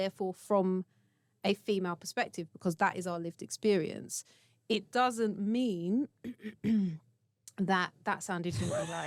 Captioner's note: coughs